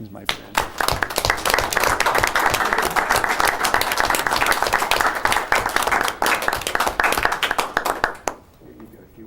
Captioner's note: applause